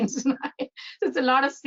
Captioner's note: laughing